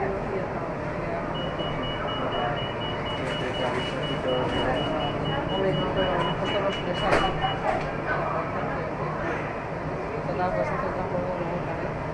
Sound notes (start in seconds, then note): 1.4 closing doors signal